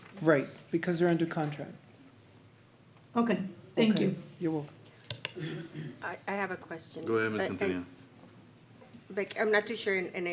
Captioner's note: clears throat